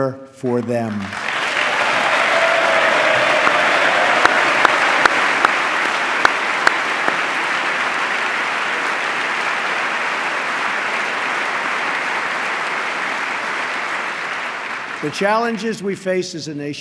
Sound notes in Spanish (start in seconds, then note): 2.3 aplauso